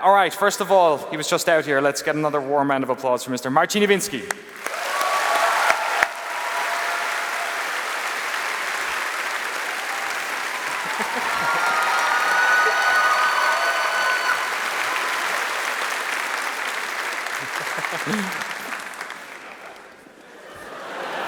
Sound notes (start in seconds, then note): 5.6 applause